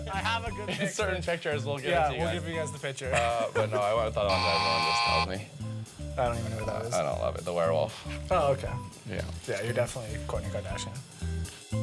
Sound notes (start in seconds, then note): 3.1 laughing; 4.3 buzzer noise